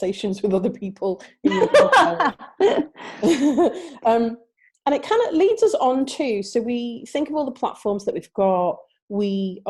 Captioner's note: laughing